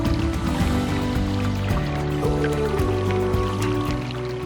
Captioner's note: sounds of running creek